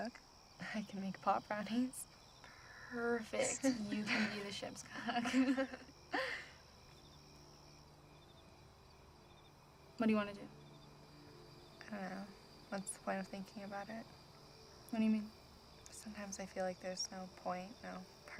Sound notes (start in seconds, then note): 4.9 both giggling; 7.2 gentle music